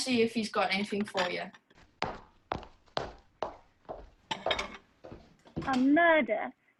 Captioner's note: footsteps